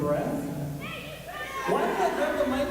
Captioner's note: crowd shouts angrily